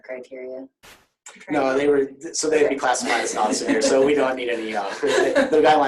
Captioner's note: laughter